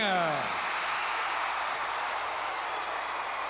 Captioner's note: crowd cheering